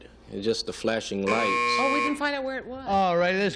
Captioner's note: buzzer